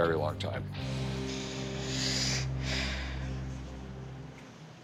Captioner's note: sighs